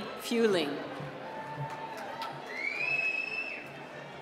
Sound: cheering

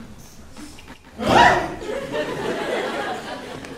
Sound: all gasp

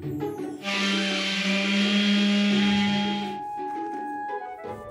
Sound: cheerful music; sander humming; paint roller squishing

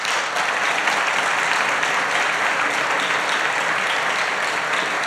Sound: applause

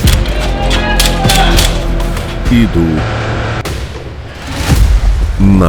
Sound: sound of an explosion

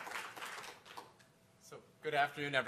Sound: applause

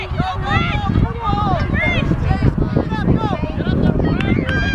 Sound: cheering and hollering

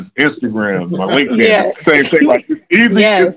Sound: laughing

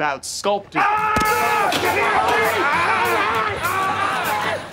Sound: screaming

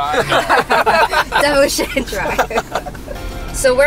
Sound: laughter

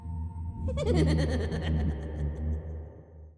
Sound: evil laughing

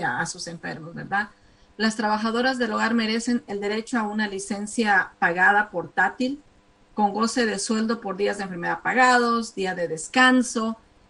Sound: speaking spanish

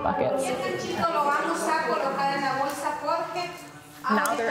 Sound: speaking foreign language

